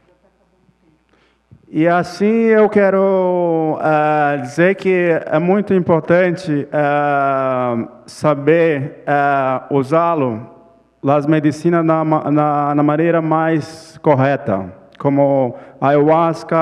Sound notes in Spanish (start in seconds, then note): 4.3 Ponente habla en portugués